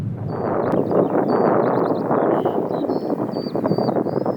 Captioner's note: strong wind